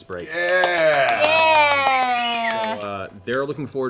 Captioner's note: cheering